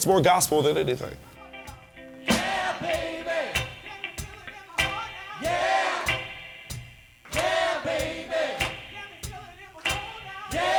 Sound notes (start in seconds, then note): 1.7 crowd; 5.4 crowd